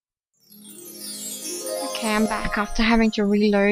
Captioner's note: magical xylophone sound effect